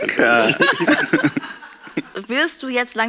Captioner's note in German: Lachen